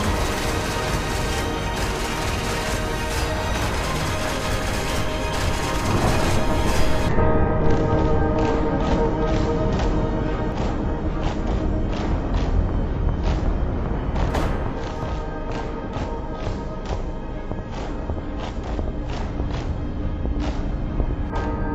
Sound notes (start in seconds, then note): 12.0 echoing bell tolls, slow marching percussion + a rapid heartbeat